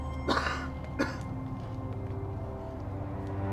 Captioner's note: coughing